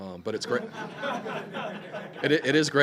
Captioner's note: laughing